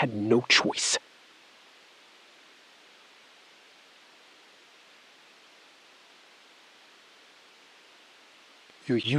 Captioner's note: SILENCE — 5 sec